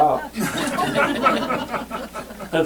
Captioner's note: laughter